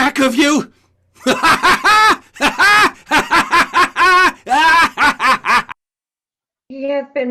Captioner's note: maniacal laughter